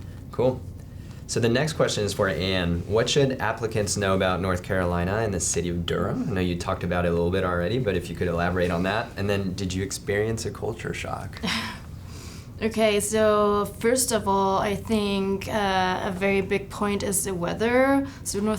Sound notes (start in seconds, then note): 11.9 laughs